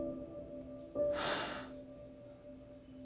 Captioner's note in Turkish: Derin nefes verdi